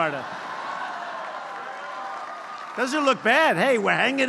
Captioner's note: applause